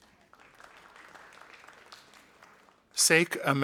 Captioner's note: audience applauding